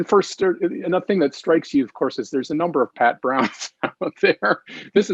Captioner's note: laughs